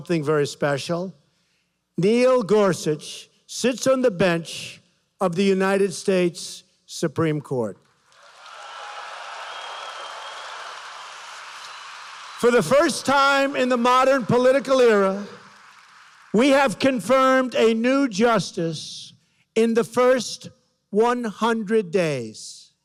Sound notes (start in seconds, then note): 7.8 applause